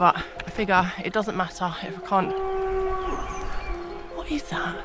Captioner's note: loud cow noise